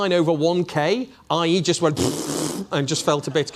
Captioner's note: blowing raspberries